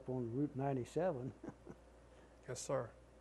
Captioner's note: laughter